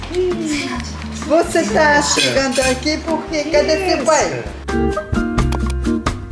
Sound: speaking Portuguese

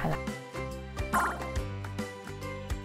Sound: pinball bouncing sound

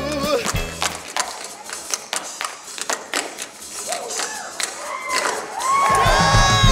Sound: hands clap; shoes tap

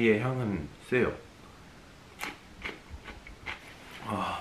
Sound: crunchy

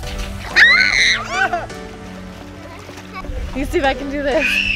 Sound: screaming; screaming

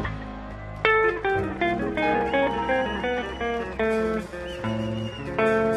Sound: audience applauds and cheers

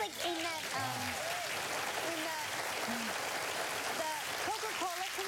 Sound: applause

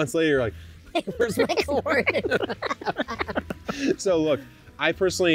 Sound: laughs

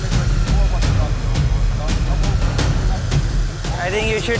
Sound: car motors

